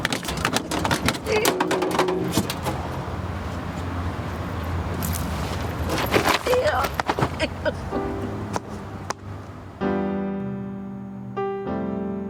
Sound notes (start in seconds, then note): 0.0 phone booth clanging; 7.9 crying; 9.6 dramatic piano music plays